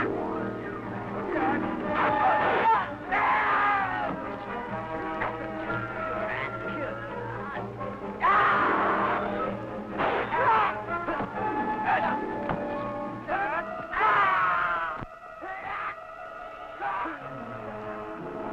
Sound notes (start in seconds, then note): 8.1 troops yelling; 10.0 guns firing